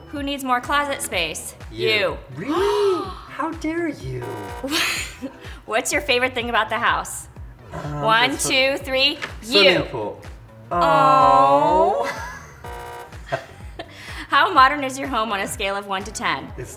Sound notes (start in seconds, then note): 2.4 gasps; 4.0 buzzer sounds; 4.6 laughs; 12.4 buzzer sounds; 13.1 both laugh